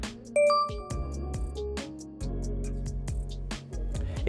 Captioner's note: bell dings